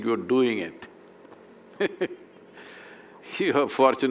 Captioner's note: laughs